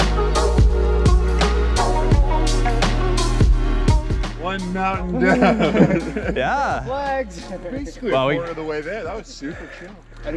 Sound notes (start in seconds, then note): 4.9 laughing